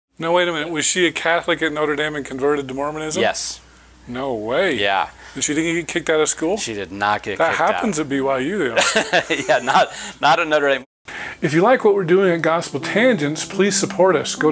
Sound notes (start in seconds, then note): 8.7 chuckling